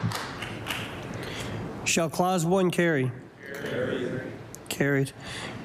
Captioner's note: applause